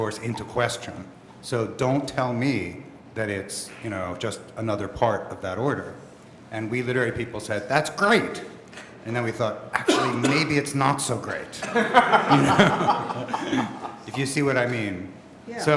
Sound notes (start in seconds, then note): 11.6 laughter